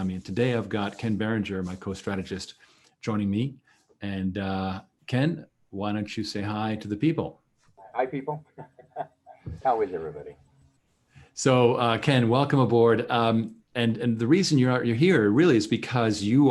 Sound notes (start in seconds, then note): 7.9 chuckles